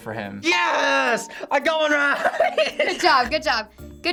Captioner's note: bell rings; laughs